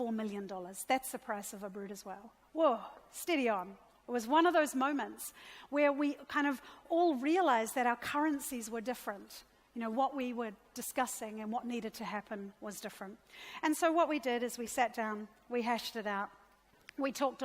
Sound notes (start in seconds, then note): none